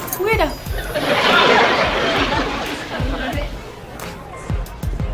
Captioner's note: audience laughs